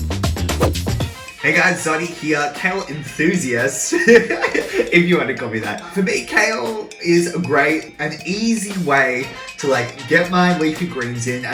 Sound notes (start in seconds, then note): 3.6 laughs